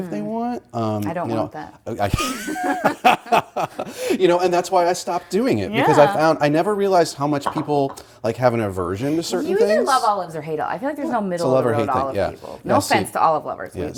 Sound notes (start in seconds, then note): 2.1 laughter